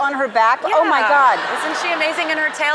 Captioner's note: crowd members laughing